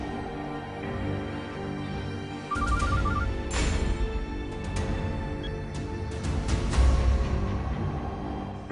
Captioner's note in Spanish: Suena el celular